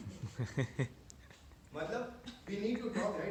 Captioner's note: laughter